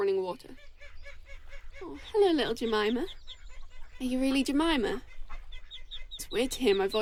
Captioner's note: a duck quacks nearby